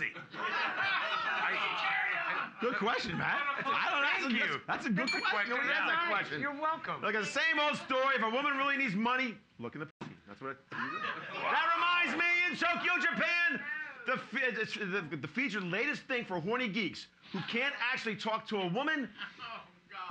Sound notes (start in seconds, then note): 0.2 loudly laughing; 5.0 bell softly chimes